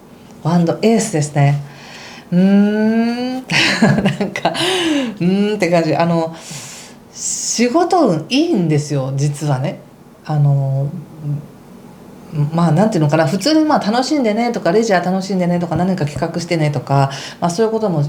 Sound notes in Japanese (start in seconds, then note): 3.4 笑い; 4.5 息をのむ音